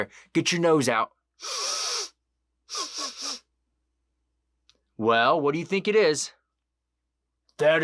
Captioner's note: sniffing noise